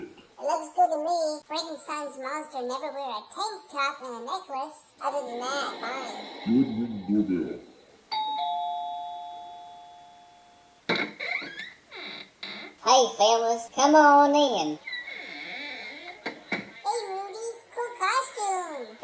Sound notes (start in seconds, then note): 8.1 ding-dong; 10.9 door opens; 15.2 door closes